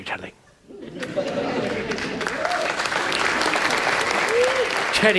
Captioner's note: audience applauds